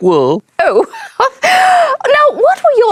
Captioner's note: laughs